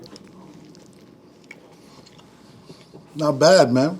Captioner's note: bread crunching